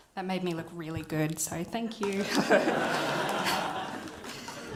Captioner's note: laughter